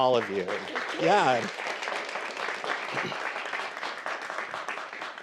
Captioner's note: audience applauding